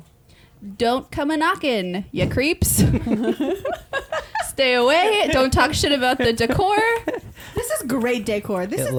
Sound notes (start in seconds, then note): 2.8 laughing